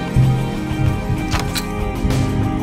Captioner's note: console thwacking; dramatic electronic music with buzzing accents